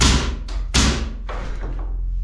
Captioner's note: hammer thudding